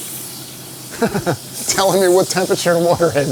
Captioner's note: laughing